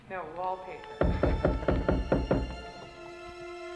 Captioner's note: laughs; knock on the door